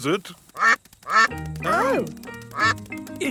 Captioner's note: quacking